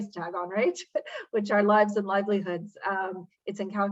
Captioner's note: laughs